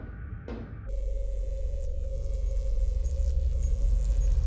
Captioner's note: beeping